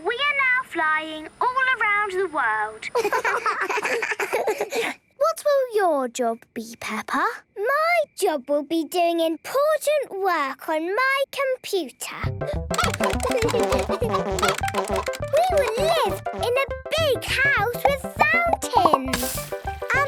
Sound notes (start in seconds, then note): 12.7 keyboard tapping; 12.7 computer game chickens clucking